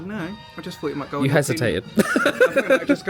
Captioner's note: laughs